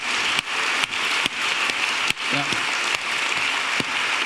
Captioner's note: audience applauding